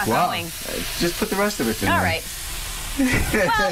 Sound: steam noise

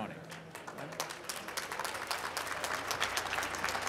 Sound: applause

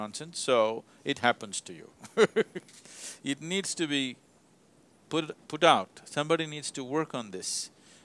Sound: laughs

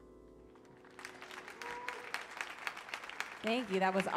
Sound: audience applauds

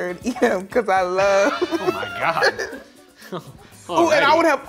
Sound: laughs

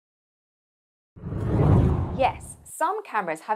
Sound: screen whooshing

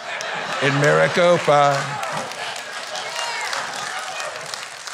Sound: clapping

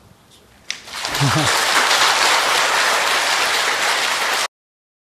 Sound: applause

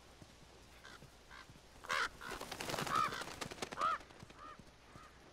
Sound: flock of crows

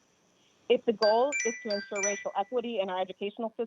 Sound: chime

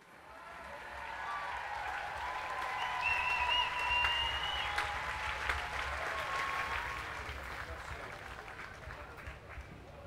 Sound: audience cheering and clapping

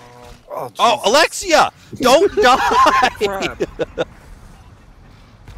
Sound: laughter

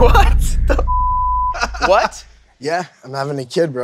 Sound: beep

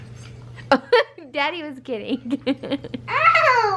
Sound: laughs; laughs

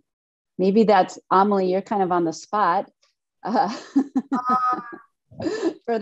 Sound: laughing

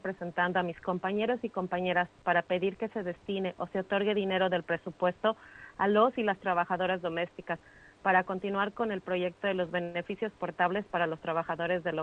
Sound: speaking spanish

